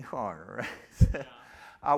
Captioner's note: chuckles